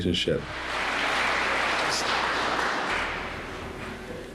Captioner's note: audience applauds